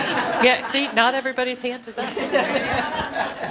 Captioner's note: audience laughter